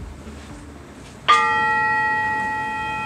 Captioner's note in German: Sanftes Klingen